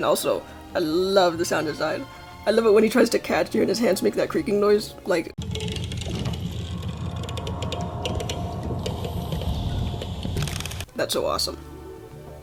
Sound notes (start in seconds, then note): 5.4 low-pitched slow creaking noises